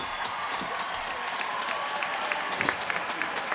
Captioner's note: cheers and applause